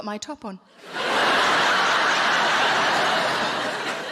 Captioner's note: audience laughing